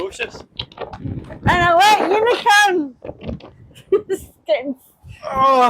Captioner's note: laughter